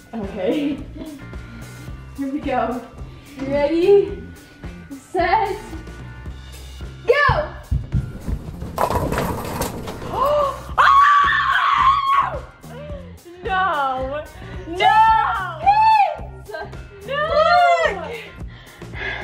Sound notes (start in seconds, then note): 7.8 bowling pins crashing; 10.7 screaming